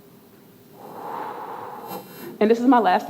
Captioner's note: exhales